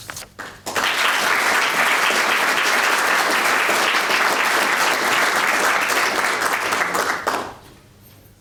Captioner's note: applause